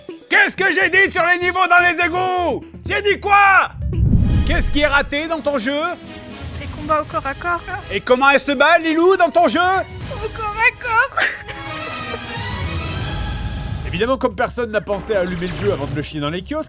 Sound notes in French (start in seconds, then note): 11.0 pleurs